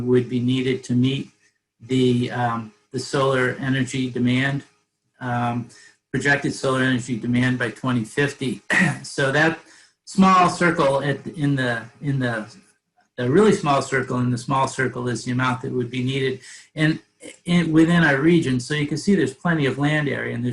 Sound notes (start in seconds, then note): 8.5 clears throat